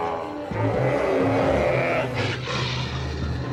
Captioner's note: bellowing; growling